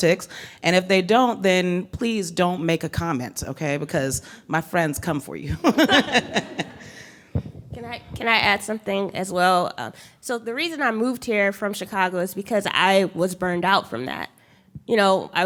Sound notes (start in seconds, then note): 5.6 laughing